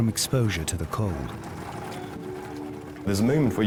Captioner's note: lifeboat engine whirring